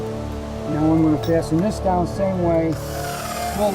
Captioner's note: sound of drilling